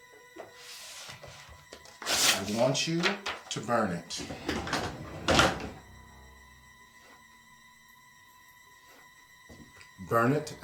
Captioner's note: paper tear